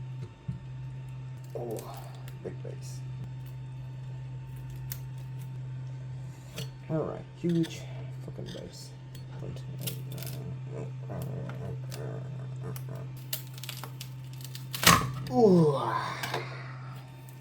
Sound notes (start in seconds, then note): 1.0 grumbling and mumbling